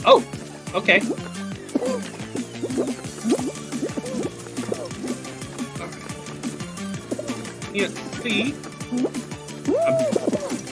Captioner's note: groan